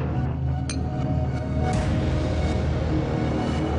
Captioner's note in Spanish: Chocan los vasos